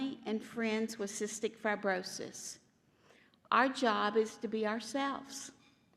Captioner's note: none